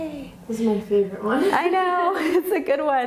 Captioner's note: laughs